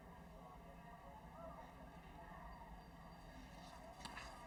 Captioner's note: none